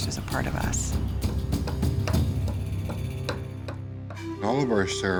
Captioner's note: hammering